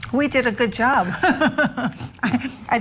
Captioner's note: laughing